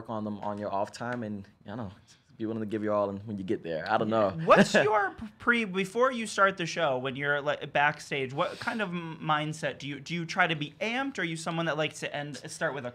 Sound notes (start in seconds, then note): 4.3 laughs